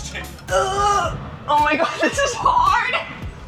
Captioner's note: laughs